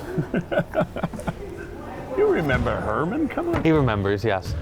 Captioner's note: laughing